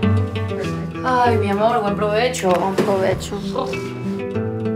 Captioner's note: speaks in foreign language